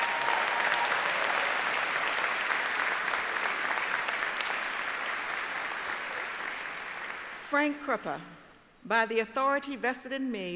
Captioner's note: applause